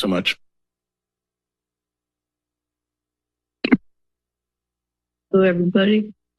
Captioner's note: silence